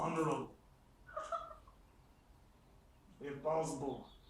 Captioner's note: Cathy laughing